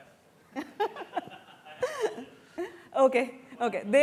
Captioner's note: laughter